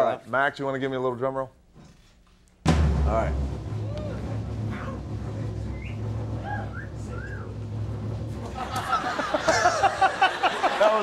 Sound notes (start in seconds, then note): 4.1 drum rolling; 5.5 man cat-calling; 6.5 man whistling; 8.4 all laughing; 8.9 Conan sniggering